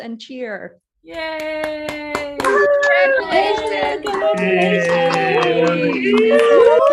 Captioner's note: cheering